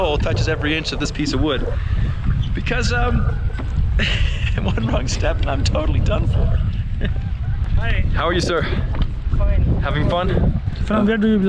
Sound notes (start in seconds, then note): 6.7 laughing; 11.2 speaking foreign language